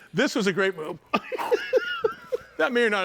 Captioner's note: laughing